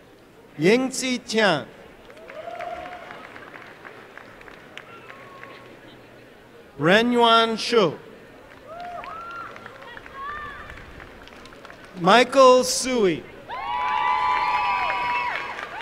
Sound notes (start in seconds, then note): 2.0 applause; 8.5 applause; 13.4 applause and cheering